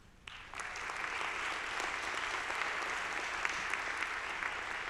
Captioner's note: audience applauding